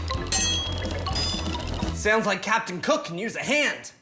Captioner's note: spoons clanking